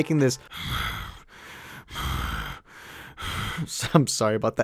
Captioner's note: breathes in German